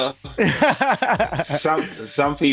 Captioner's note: laughter